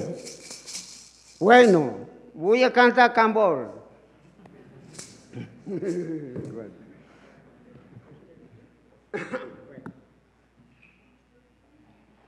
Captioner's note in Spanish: habla en lengua indígena